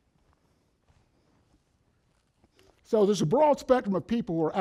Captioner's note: silence